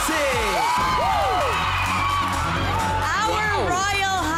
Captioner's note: audience screaming in cheer